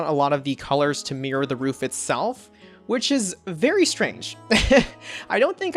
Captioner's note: laughs